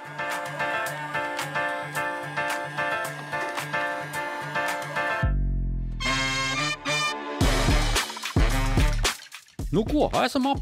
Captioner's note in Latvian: Aplausi